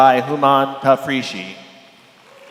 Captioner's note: applause